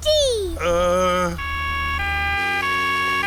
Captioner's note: siren wailing